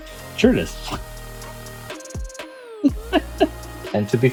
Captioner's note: laughing